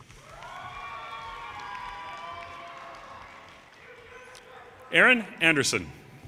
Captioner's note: audience cheers and applause